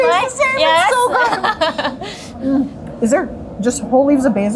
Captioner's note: laughing